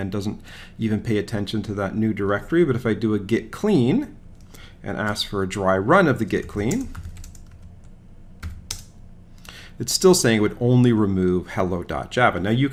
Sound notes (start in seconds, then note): 6.2 keyboard clicking